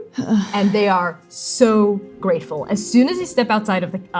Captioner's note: pained sighing